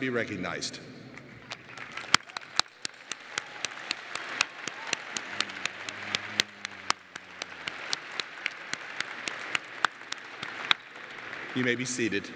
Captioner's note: applause